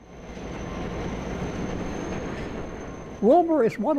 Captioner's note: train engine roars